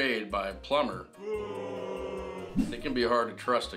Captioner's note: audience boos